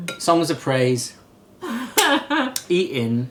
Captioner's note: chuckling